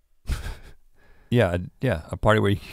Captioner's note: Link laughing